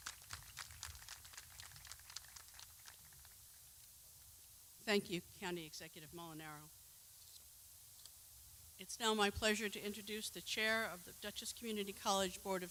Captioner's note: clapping